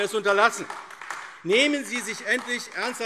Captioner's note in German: Beifall AfD